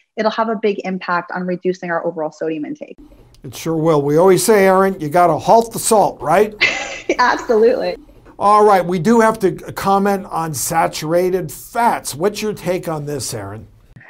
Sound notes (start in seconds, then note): 6.3 laughs